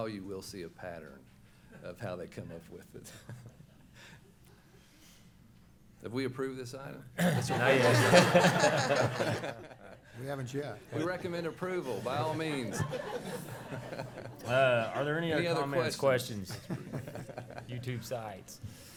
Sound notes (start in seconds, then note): 7.2 laughing; 11.9 laughing